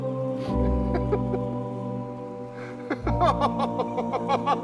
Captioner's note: sound of laughing